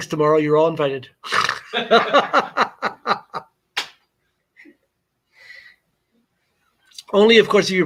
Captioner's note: laughter